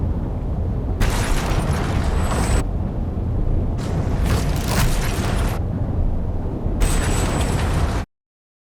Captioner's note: game audio distorting